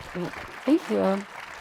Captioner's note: participants clap